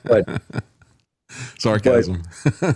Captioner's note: laughing